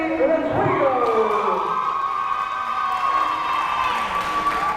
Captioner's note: crowd cheering